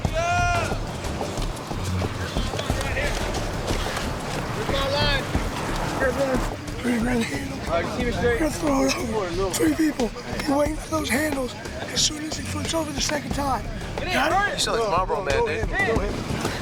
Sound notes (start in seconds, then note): 8.0 in hoarse voice